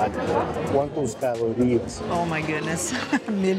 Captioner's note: in Portuguese